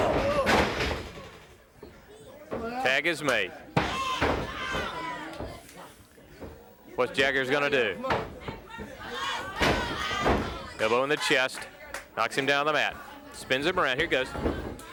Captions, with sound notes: (hands clapping) Tag is made. What's Jaggers gonna do? (blows thudding) Elbow in the chest, knocks him down the mat, spins him around. Here goes.